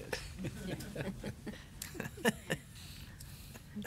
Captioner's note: laughs